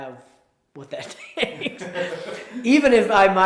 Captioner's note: laughs